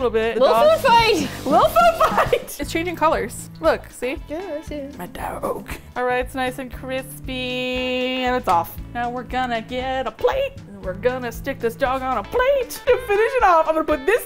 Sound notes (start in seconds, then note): 1.4 laughs; 8.8 singsong